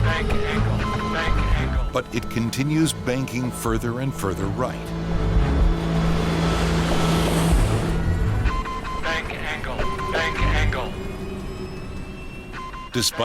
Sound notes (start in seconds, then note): 0.3 recorded Voice; 5.8 airplane engine roaring; 5.8 alarm beeping; 9.4 recorded voice